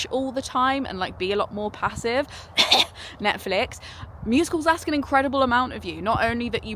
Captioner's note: cough